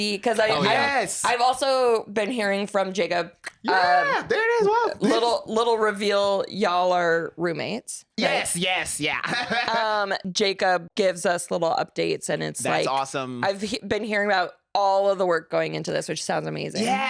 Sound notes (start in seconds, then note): 9.1 laughs